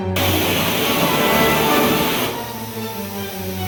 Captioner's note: torch hissing